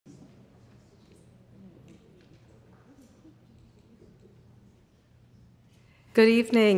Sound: audience faintly chattering

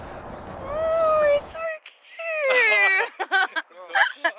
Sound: laughs

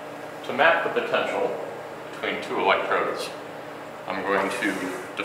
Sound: voiceover

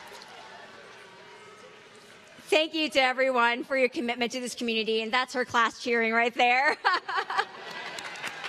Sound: cheering

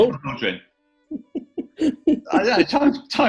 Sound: giggling

